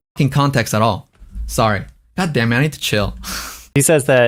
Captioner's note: laughs